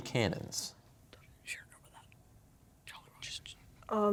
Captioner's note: whispering